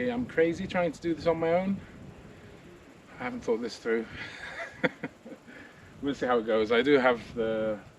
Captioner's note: laughing